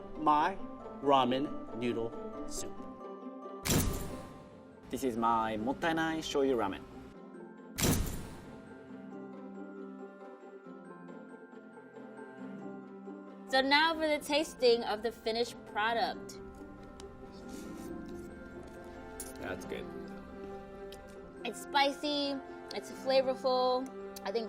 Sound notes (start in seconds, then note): 3.6 thunk; 7.8 thunk; 17.6 slurping